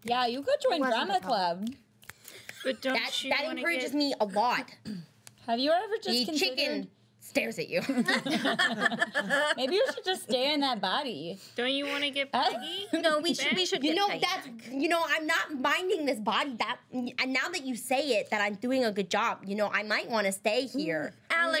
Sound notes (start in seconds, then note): 7.8 girls laughing